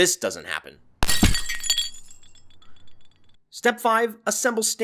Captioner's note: shattering glass